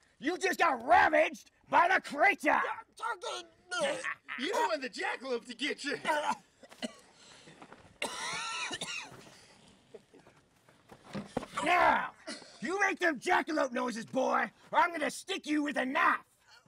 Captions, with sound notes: You just got ravaged by the creature! You're choking me. You don't want the Jackalope to get ya! (Coughing) Now, you make them Jackalope noises boy. Or I'm gonna stick you with a knife!